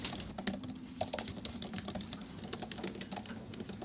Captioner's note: typing